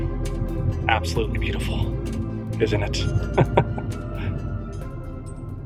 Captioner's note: laughter